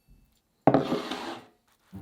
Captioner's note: bowl sliding